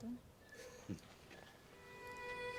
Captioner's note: Austin chuckles; warm string music